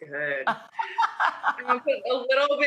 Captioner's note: Rachael laughs